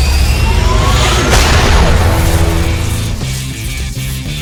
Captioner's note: sword whirring; sword crashes